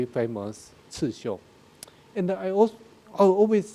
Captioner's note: speaking in a foreign language